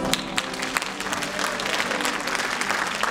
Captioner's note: applause